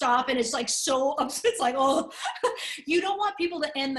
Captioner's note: laughter